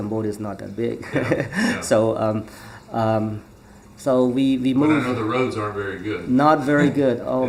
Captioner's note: laughs